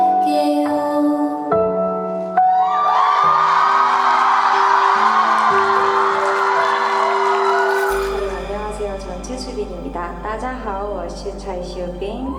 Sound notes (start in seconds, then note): 4.6 thunderous cheers from the very first song